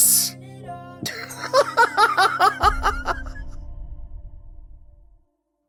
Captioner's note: Mel lets out a wild laugh